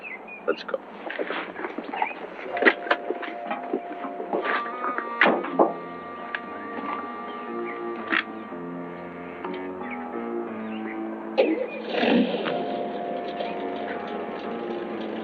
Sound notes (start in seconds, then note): 2.6 suspenseful music; 11.6 engine starts